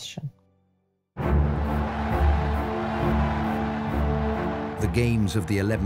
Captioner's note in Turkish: kalabalık tezahürat